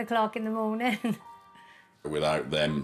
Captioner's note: laughing